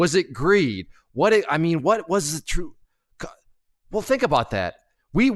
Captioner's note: stutters